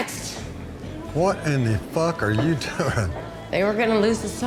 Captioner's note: laughs